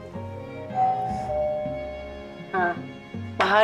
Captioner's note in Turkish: Kapı zili çaldı